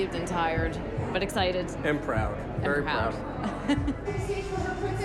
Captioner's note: chuckles